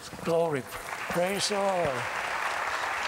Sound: applause

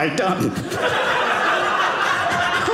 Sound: audience laughing

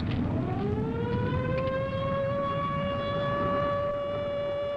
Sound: alarms blaring

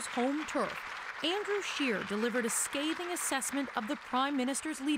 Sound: applause

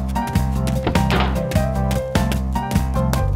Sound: footsteps; door closing

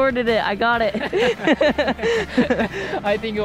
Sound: laughs

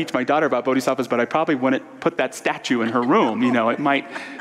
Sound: audience laughter

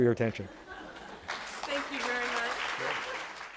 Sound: applause

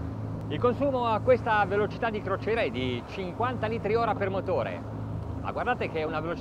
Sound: speaking in foreign language

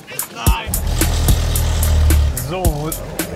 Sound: happy music; engine noise

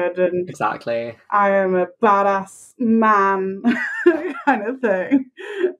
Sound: laughing

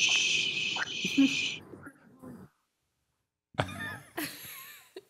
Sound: chuckle

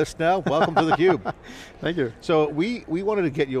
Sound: laughing

